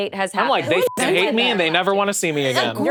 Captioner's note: beep